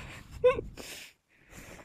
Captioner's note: more giggles!